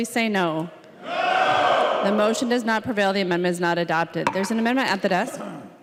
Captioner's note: chorus of ayes